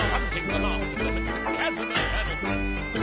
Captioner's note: groaning